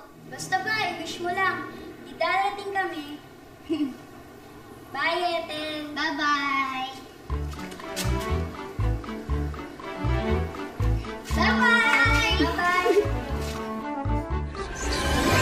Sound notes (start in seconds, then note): 3.6 Ethel chuckles; 7.3 happy music playing